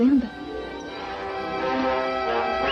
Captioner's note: whistles